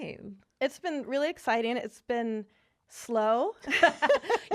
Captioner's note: laughing